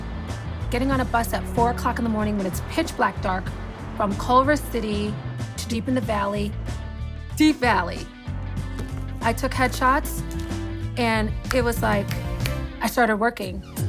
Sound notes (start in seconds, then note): none